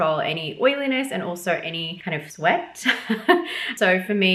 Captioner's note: chuckles